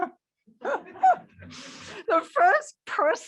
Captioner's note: chuckling